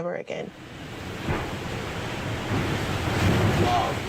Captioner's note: winds howling